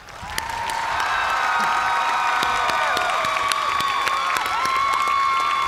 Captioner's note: cheers and applause